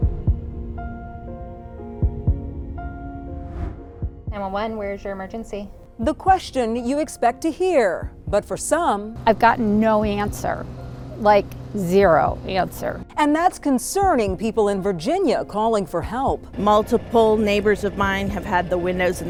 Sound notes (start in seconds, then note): 0.3 pensive music; 3.2 air whooshing